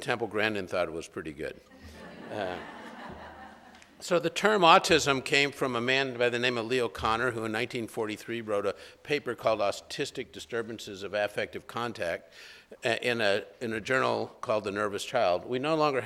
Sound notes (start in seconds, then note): 1.7 laughter